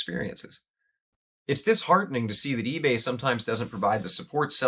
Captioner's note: voiceover